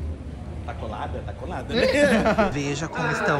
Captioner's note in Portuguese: risos